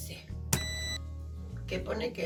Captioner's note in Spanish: pitido fuerte